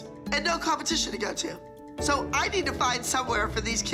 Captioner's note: none